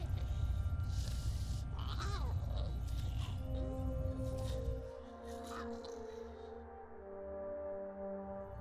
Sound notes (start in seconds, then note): 1.8 Giree grumbling; 3.7 pensive music